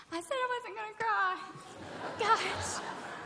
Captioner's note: laughter